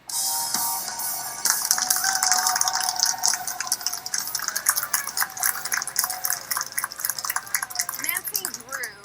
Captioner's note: applause